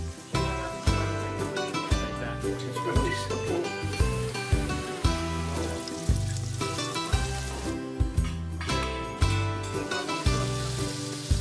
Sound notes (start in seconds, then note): 0.0 meat sizzling; 3.5 meat sizzling; 3.9 upbeat music continues